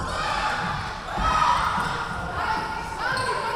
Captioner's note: yelling